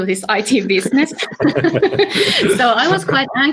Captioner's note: laughter